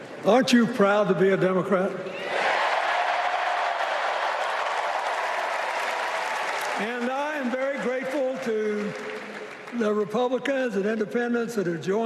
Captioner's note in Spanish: Aplausos